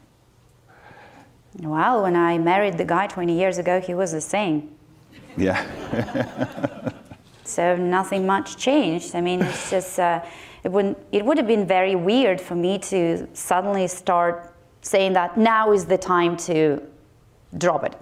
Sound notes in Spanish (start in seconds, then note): 5.1 Risas del público